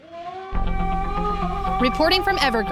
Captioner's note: yelling